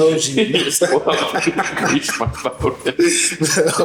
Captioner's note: laughing